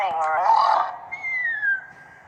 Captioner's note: snoring whistle